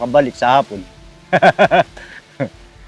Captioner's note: laughs